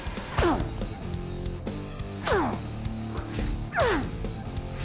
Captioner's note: grunting